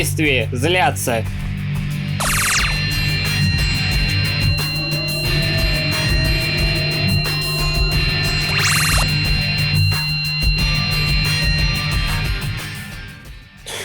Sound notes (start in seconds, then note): 1.1 energy bursts; 1.1 portal squeak; 5.0 box engines howl; 5.0 portal squeak; 8.5 box engines howl; 8.5 energy bursts; 8.5 portal squeak; 9.6 box engines howl